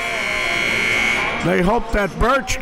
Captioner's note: buzzer rings